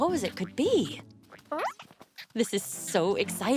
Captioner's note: caterpillar noises